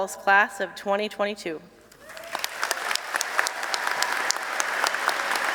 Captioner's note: applause